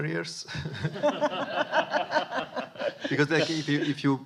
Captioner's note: audience laughing